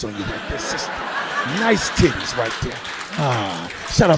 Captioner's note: audience laughing